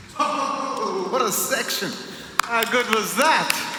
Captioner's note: clapping